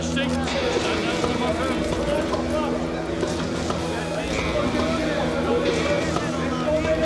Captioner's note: bolt click